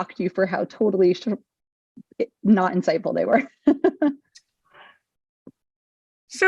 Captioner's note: laughing